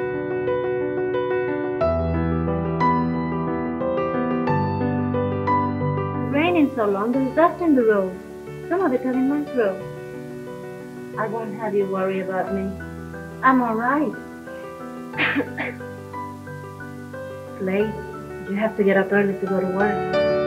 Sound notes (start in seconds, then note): 0.2 piano music continues; 15.2 she coughs; 17.1 female voice speaks off camera